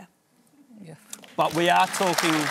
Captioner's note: applause